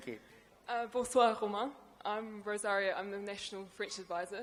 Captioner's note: speaks in a foreign language